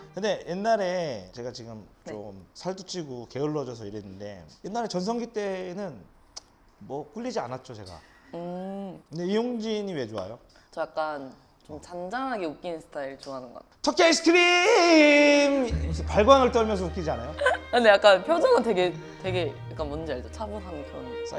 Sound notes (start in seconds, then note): 15.4 brrr